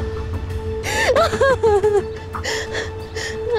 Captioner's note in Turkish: Kadın ağlıyor